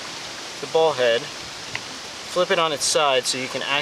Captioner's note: wind whirring